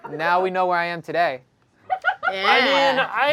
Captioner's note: laughing